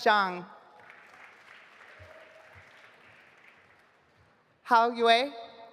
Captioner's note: audience applauding